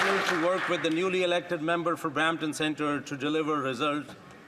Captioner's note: some Applause